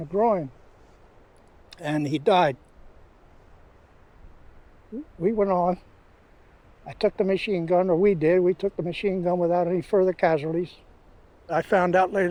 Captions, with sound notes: He'd got hit in the groin... [clicks tongue] and he died. W... we went on. I took the machine gun, or we did, we took the machine gun without any further casualties.